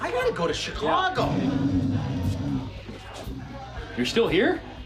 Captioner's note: snoring